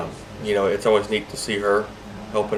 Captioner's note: laughs